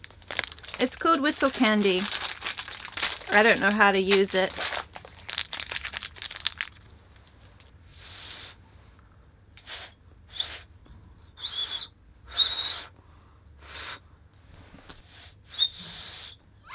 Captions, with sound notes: It's called 'whistle candy', I don't know how to use it (feeble whistling noise)